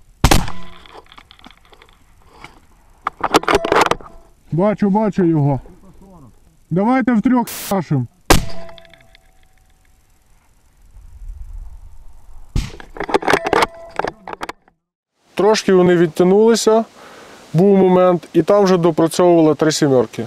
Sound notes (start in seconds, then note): 0.2 sound of a sniper rifle shot; 0.2 sound of a sniper rifle reload; 8.3 sounds of sniper rifle shots and reloading